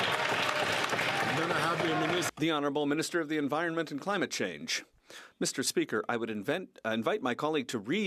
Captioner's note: some Applause